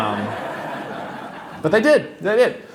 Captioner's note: laughter